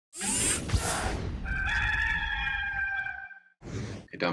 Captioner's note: futuristic swoosh; rooster crow